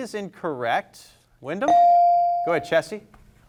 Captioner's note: bell rings